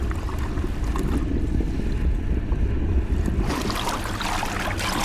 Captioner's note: bubbles gurgling; water splashing